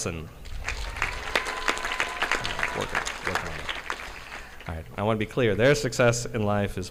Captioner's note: audience applauding